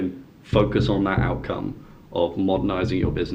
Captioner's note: board booming